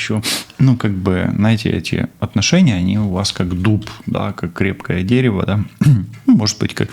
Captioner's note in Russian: откашливается